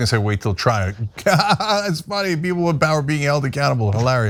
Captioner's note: laugh